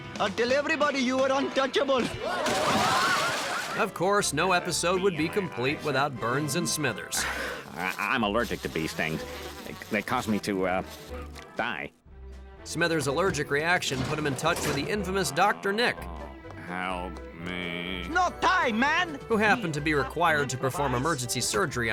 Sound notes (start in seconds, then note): 2.0 people screaming